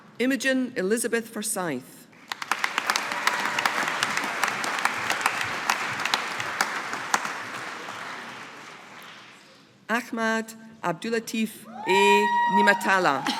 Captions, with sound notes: Imogen Elisabeth Forsyth. (AUDIENCE APPLAUDING) Ahmad Abdullatif A Neamatallah.